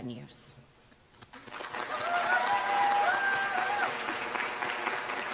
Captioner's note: applause